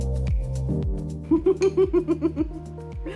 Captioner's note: chill music; chuckle